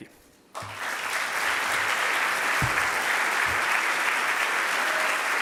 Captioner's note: audience applauding